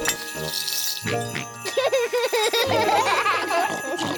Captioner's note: snorts and giggles; all laugh